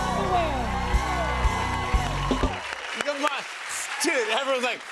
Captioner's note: cheers and applause